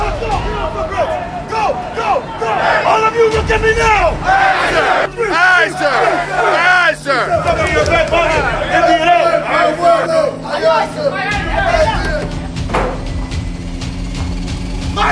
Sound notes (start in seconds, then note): 7.5 Marine drill sergeants yelling commands; 12.0 dramatic music